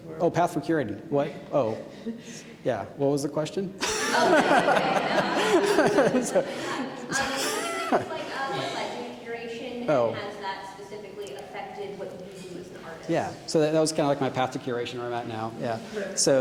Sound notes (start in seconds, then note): 3.8 audience laughing; 3.8 laughing